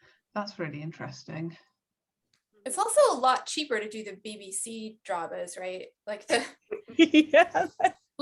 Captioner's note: laughs